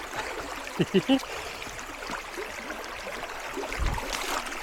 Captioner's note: chuckling